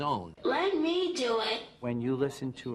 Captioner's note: voiceover